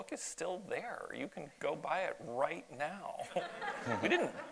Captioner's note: audience laughs